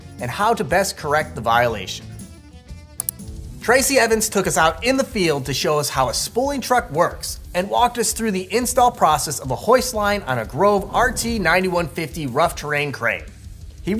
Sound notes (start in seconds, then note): 3.0 mouse clicking